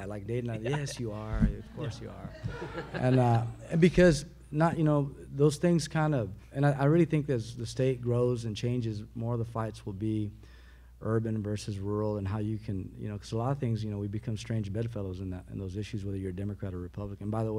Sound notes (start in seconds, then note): 2.9 audience laughs